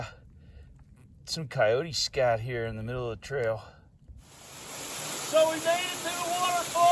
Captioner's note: rushing water